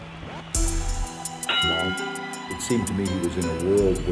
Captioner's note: bell dings